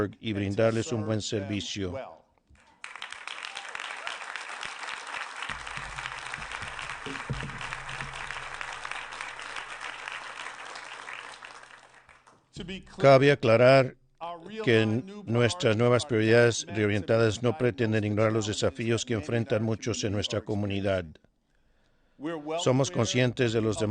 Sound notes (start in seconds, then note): 9.4 applause